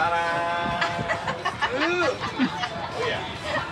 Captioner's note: laughing